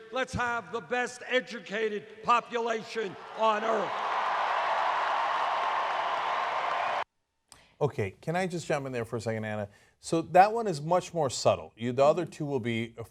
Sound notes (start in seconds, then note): 3.0 cheers and applause